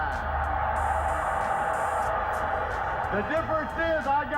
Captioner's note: crowd cheering